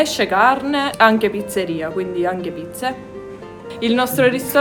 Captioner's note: speaking Italian